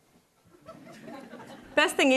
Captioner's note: attendees laughing